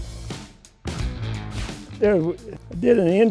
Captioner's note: air whooshing